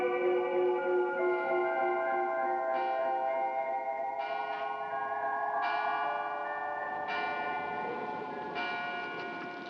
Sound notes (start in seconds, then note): 2.6 bell tolling